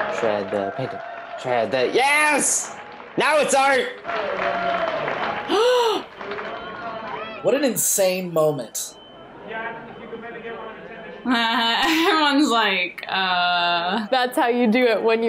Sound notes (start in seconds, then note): 5.5 gasps; 11.2 laughs